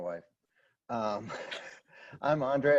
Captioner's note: laughter